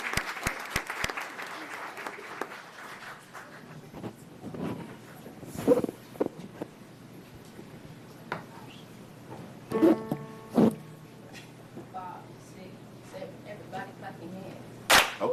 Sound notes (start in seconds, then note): 3.0 applause